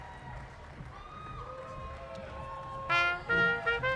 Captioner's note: audience applauding; brass quintet music